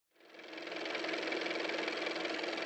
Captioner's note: car motor